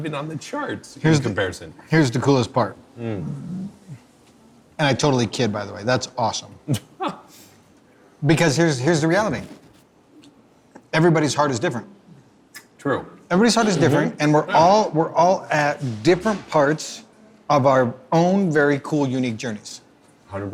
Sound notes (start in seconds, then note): 7.1 laughing